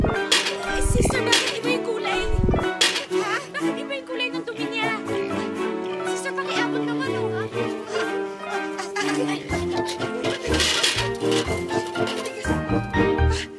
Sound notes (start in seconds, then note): 0.0 thuds; 9.4 rattling